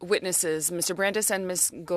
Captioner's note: speaking French